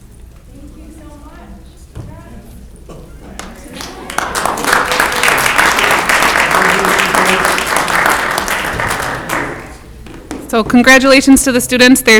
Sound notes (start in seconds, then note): 3.3 clapping